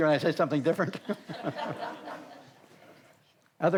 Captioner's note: all laugh